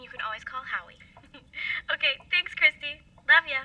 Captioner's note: chuckles